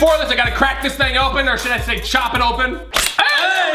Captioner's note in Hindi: लोहे से काटने की आवाज़